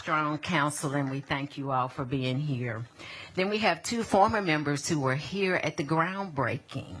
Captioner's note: applause